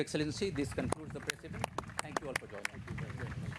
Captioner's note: applause